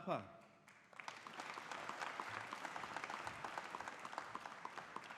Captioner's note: audience applauding